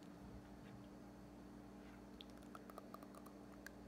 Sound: faint teeth sounds

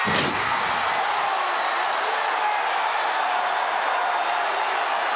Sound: crowd shouting

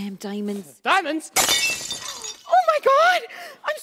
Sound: glass shattering

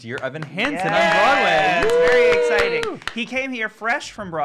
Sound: group cheering

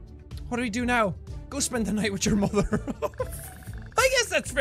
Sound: giggle

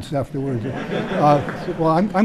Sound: chuckle

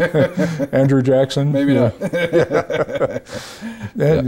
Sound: both laugh

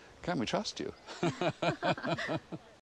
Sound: laughing

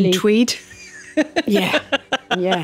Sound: laughs

